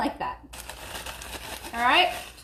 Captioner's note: chips rattling